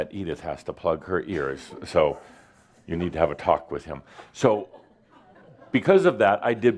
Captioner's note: some giggles